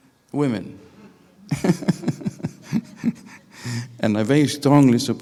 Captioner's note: laughing